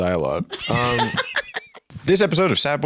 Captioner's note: laughs